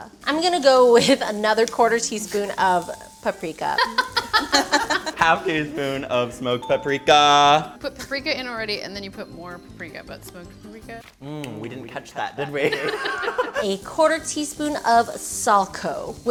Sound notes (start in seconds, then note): 3.7 laughing